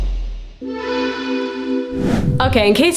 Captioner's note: shimmering